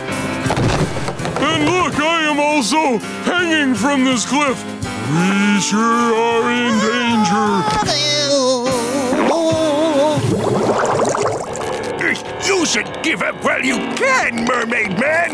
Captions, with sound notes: And look, I am also hanging from this cliff. Pretty sure I'm in danger. [groaning] You should give up while you can Mermaid Man.